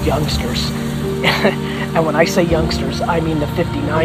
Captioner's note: laughs